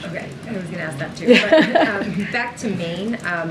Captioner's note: laughter